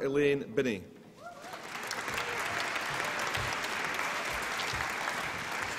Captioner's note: applause and cheering